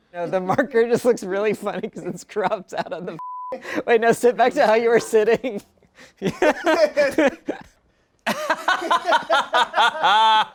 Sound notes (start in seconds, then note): 3.2 beep; 6.1 everyone laughs